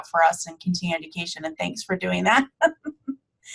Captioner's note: chuckling